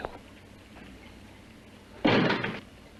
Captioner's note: knocks